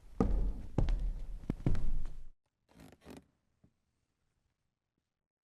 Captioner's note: footsteps